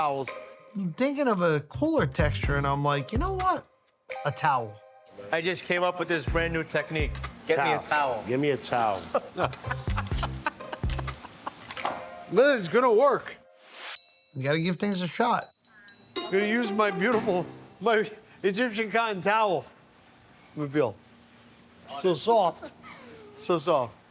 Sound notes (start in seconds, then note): 8.9 laughing